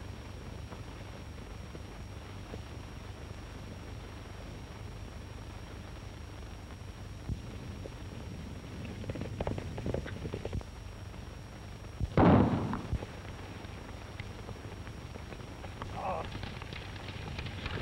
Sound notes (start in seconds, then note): 12.1 gunshots